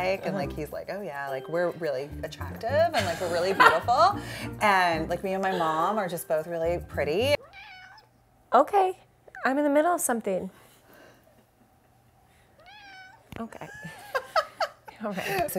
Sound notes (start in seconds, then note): 7.4 Bones meows; 12.6 Bones meows; 13.5 laughs